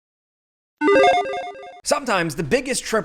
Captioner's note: logo bleeping